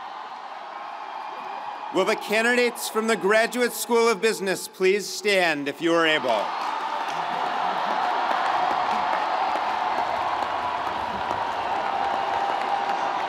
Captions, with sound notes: - Will the candidates from the Graduate School of Business please stand if you are able? (audience cheering) (audience applauding)